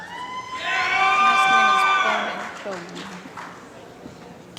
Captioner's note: applause